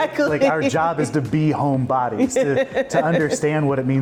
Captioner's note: laughing